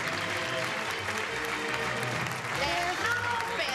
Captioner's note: clapping